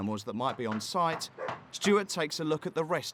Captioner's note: knocking on door